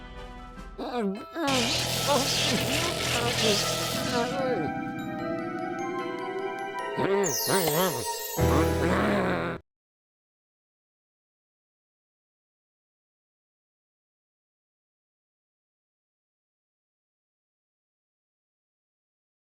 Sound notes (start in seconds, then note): 1.4 grumbles